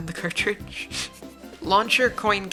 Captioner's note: slight giggle